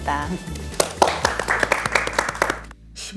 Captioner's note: clapping